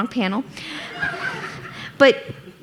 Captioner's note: audience laughing